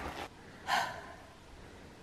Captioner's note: sighs